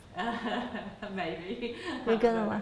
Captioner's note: laughs